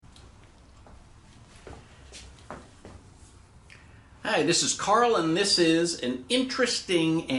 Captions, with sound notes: (feet pattering) - Hi, this is Karl and this is an interesting